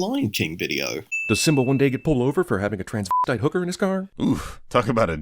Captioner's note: slur